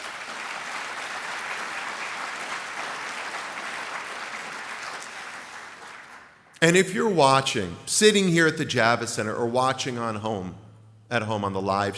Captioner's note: applse